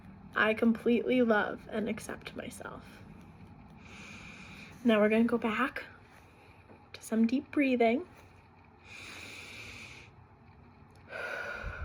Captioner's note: breathing